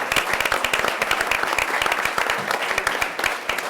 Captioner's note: audience applauds